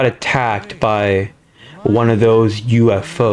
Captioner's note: inhales Oxygen